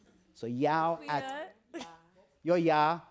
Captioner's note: speaking Non-English Language